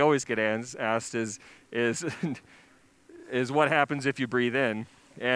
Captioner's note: chuckles